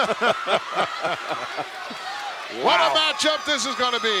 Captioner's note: laugh